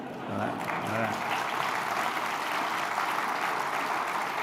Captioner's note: applause